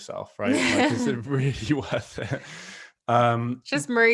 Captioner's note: both chuckling